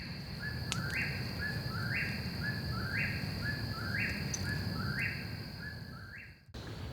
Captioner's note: whippoorwill sings